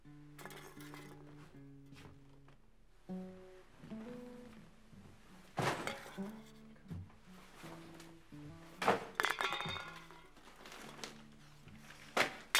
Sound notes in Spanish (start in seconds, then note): 5.5 equipaje chocando; 8.8 ruido de latas